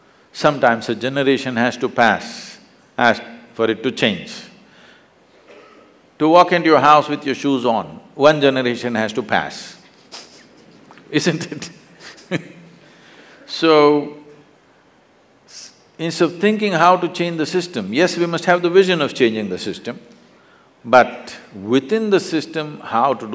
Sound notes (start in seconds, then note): 11.9 laughs